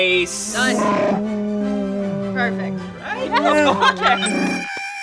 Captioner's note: laughing